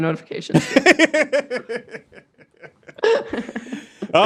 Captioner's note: laughing